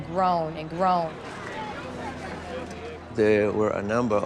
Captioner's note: talking in background